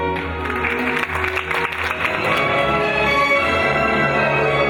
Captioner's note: audience clapping; soft music continues